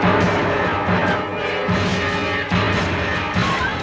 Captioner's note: man speaks Spanish